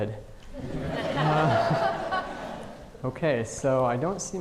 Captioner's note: audience laughing